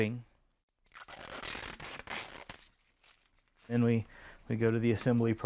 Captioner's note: plastic crinkling